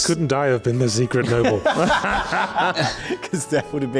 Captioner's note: laughing